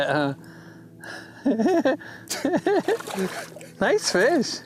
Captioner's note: laughs